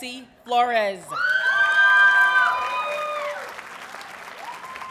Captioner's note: audience cheers and applauds